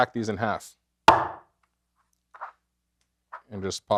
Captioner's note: cleaver thuds